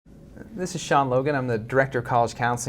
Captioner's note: voiceover